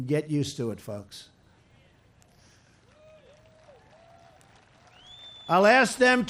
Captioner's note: applause